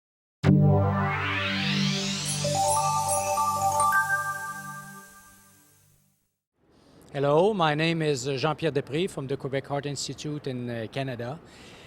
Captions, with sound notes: (digital tones) - Hello, my name is Jean-Pierre Despres from the Quebec Heart Institute in Canada